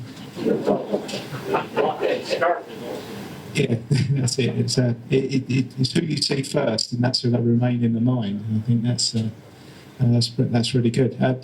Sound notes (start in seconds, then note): 0.4 audience laughter